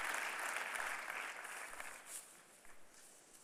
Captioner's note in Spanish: Fin de aplausos